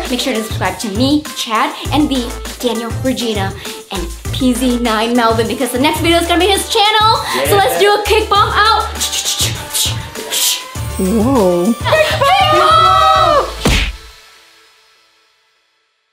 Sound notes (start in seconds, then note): 13.6 kick contact noise